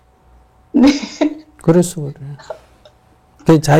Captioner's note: questioner Laughter